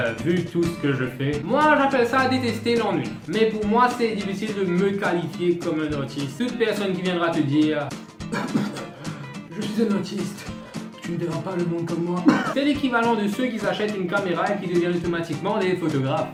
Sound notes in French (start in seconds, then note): 8.2 coughs; 12.2 Chokes on his cough